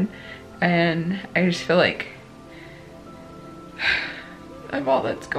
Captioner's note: sighs